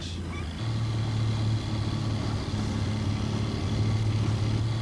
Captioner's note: boat motor revving